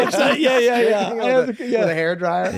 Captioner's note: laughing